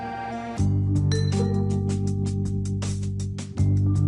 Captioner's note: rrring!